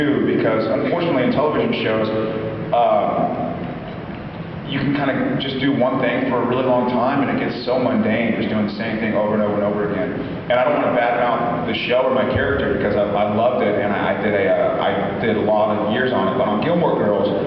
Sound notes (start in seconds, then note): none